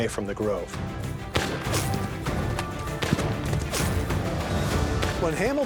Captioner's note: gunfire